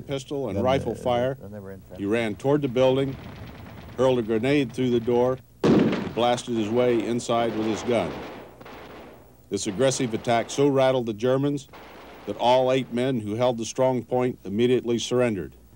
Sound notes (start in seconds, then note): 5.6 grenade bangs